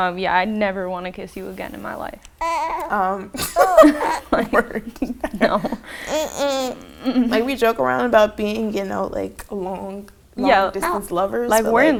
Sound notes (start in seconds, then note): 2.5 laughs